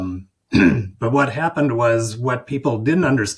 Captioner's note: clears throat